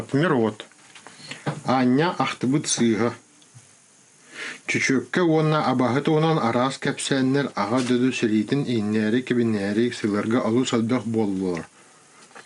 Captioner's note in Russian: читает отрывок на якутском